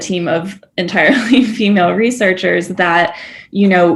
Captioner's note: chuckling